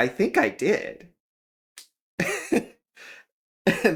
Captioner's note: laugh